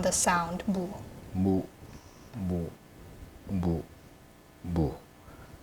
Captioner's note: speaking Korean